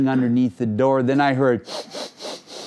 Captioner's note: sniffing